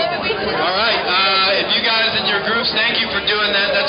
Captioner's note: voiceover